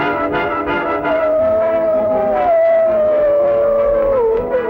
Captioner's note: howling